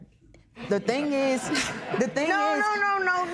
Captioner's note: laughter